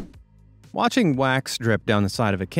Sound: swoosh

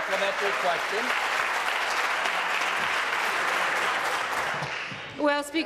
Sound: voice trails; applause

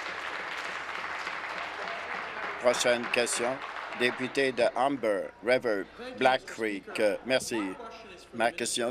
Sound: applause

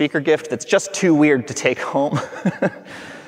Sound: laughing

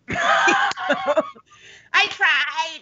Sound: both laugh

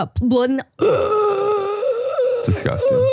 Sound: gasping

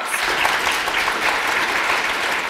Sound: applause

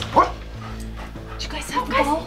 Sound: barks

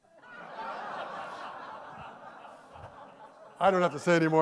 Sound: audience laughing

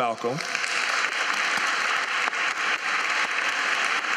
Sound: applause

